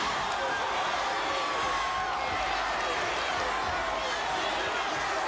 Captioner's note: crowd cheering